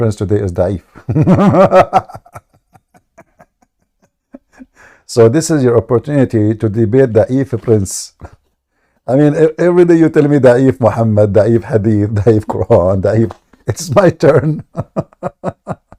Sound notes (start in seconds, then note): 0.9 Ketawa